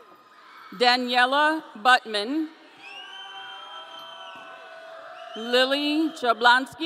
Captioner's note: audience cheering; audience cheering